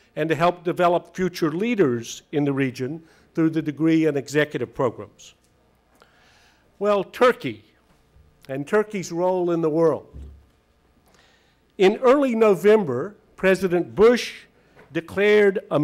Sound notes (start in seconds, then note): none